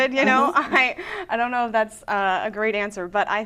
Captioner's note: laughing